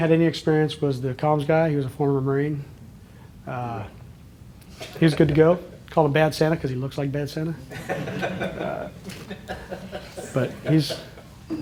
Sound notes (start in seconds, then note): 7.7 laughter